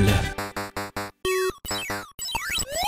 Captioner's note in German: Schräge Gamegeräusche